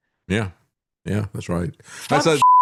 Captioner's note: beep